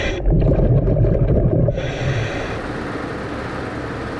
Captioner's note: water gurgling